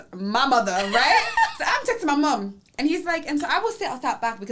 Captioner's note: laughs